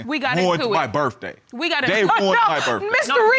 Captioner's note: laughs